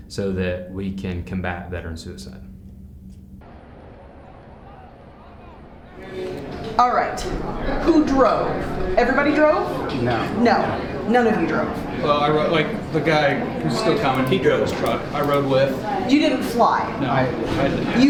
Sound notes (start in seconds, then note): 3.3 people chattering